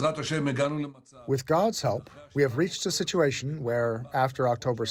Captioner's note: through translator